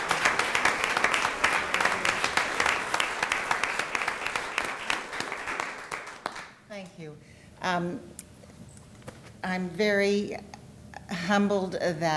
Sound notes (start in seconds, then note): 0.0 applause